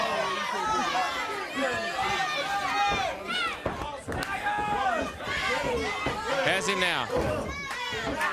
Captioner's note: crowd chatter